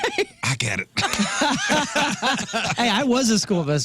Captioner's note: laughing